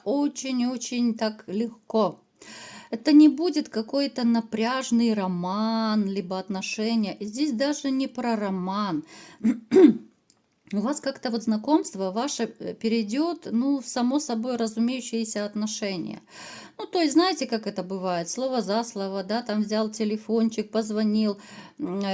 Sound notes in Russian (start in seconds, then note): 9.4 кашель; 9.4 откашливается